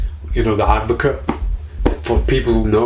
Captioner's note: hand slapping